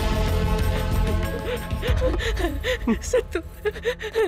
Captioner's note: Crying